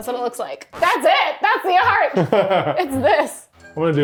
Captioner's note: laughing